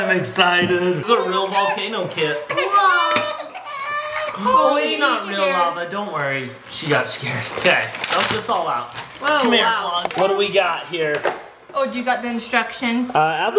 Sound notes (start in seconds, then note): 2.3 baby Crying